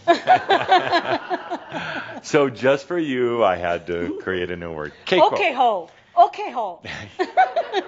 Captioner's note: more laughter